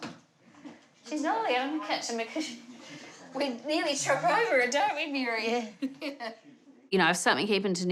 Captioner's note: laughs